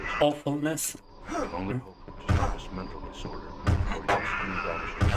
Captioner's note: grunting